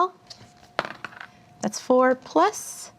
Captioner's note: die rolls